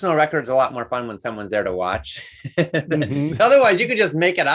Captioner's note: laughs